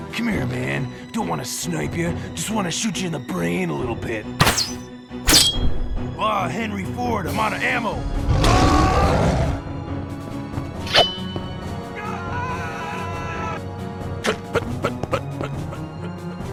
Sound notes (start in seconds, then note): 8.3 screams